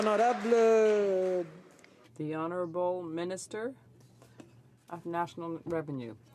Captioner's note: some Applause